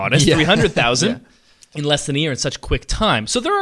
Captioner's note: laughs